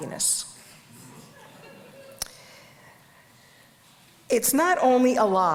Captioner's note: audience laughs